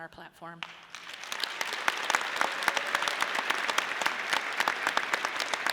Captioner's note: audience applauding